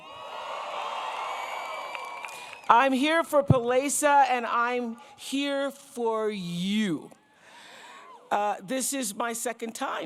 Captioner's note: applause